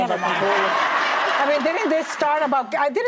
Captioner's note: audience laughs